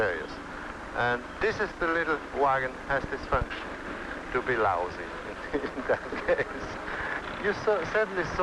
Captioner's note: laughter